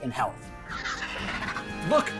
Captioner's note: squawking